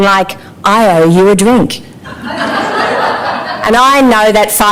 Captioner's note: laughter